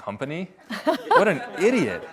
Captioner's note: audience laughs